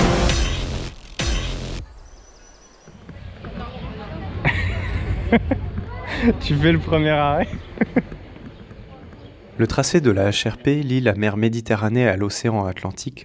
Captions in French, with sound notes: (rires) Tu fais le premier arrêt ? Le sentier du HRP relie la mer Méditerranée à l'océan Atlantique